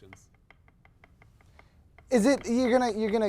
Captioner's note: tapping frantically on the chair arm